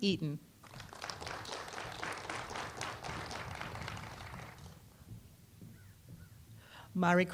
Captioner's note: applause